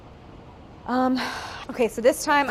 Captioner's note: sighing